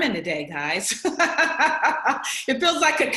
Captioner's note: laughs